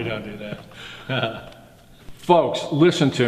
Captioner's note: laughs